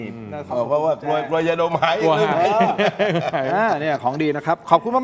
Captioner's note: laughs